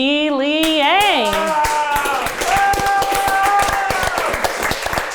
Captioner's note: everyone applauds